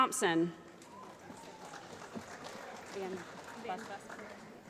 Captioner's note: applause